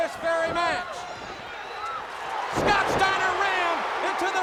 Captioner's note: crowd Cheering